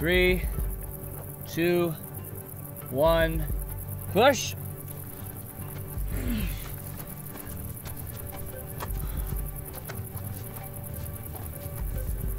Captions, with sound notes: Three, two, one. Push. (both grunting) (footsteps shuffling)